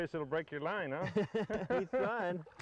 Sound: laughter

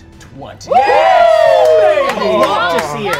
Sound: all cheering

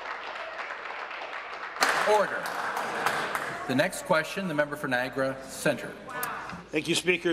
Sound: applause

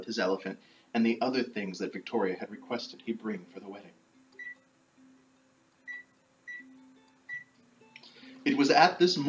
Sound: microwave beeps

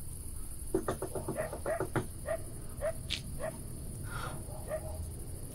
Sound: Donny knocks on door

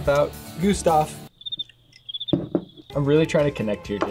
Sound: crickets chirping

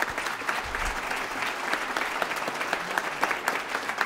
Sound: applause

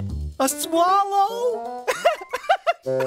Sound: giggling

